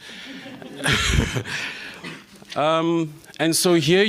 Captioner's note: laughter